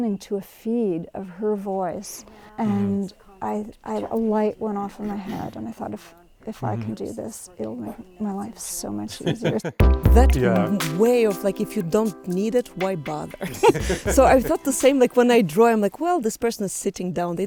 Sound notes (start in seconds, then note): 9.1 laughs; 13.2 laughs